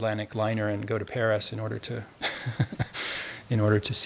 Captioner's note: laughs